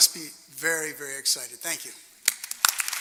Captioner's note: applause